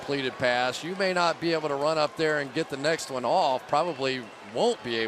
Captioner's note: players shouting